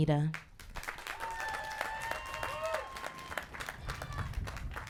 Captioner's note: applause